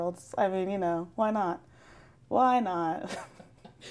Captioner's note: laughs